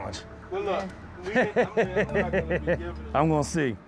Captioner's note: laughs